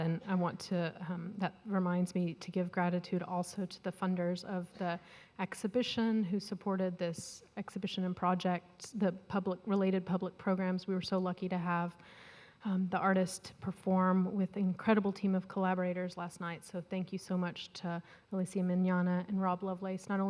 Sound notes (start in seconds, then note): none